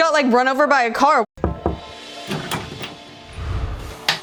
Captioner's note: knocking